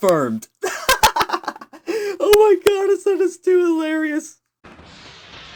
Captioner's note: laughing